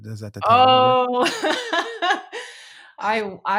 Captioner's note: laughing